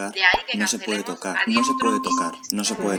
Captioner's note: phone